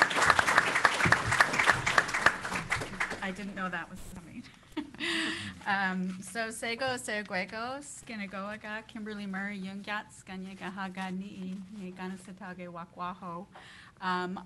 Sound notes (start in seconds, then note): 7.6 speaking in kanienʼkéha